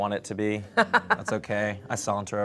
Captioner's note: laughs